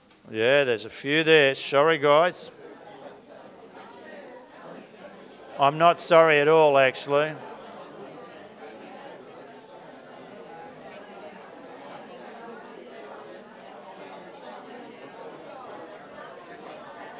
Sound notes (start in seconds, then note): 3.1 audience discussion; 7.4 audience discussion